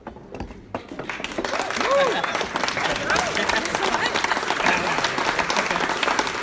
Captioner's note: applause